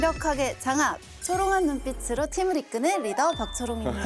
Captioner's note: sparkling